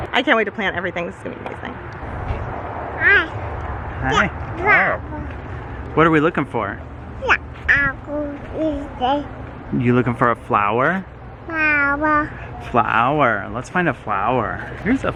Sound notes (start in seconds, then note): 7.6 babbles